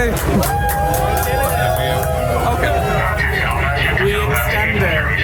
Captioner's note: cheering